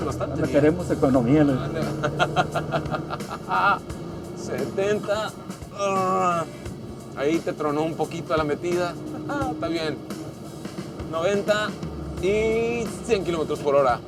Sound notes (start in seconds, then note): 1.7 laughter; 5.7 groans